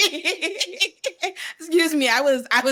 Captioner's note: laughs